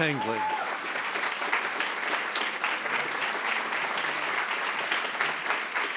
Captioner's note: attendees cheering and applauding